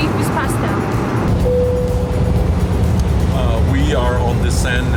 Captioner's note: flight chime ring